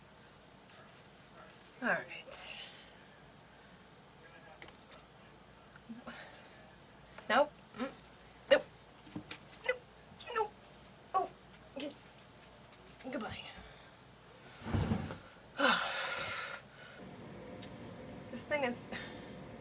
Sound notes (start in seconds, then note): 6.4 sighs; 15.5 sighs